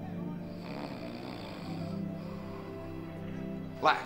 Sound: snoring

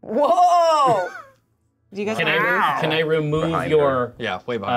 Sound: co-hosts laughing

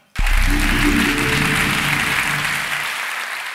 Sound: clapping

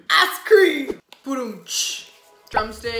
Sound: imitates drum

